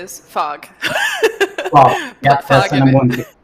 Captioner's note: laughter